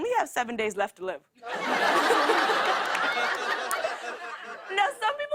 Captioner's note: laughter